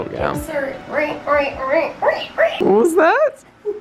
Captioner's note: imitates horror movie screeching sound effect; laughing